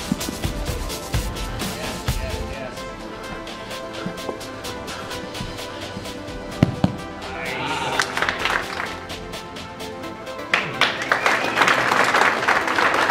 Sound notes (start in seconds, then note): 8.1 applauding